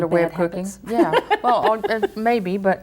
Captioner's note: laughs